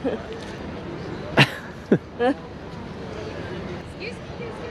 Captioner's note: both chuckling